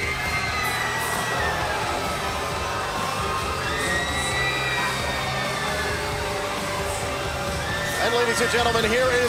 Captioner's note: crowd cheering